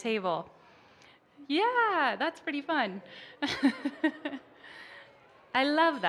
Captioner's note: laughs